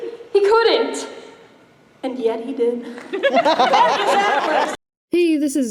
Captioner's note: laughter and applause